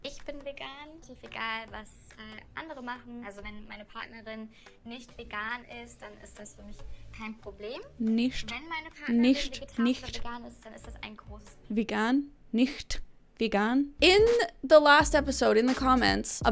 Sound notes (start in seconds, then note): 0.1 show contestant speaking in German; 8.0 speaking German; 10.5 show contestant speaking in German; 12.0 speaking German